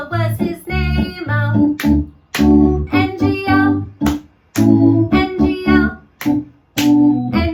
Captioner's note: clap, clap